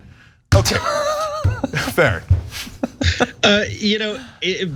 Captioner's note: laugh